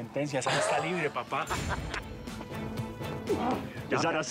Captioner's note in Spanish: risas